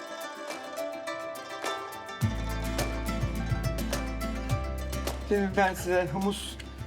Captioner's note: speaking Turkish